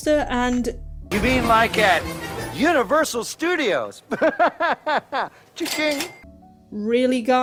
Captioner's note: laughs